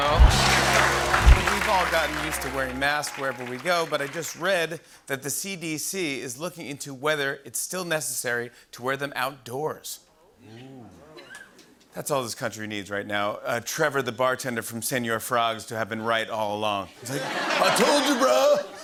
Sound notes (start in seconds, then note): 0.0 applause; 17.0 laughter